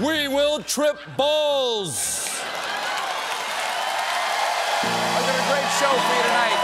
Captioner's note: cheers and applause